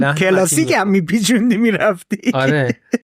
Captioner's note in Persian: خنده